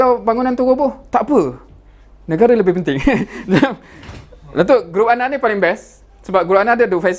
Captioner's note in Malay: ketawa